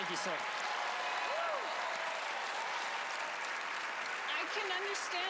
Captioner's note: audience clapping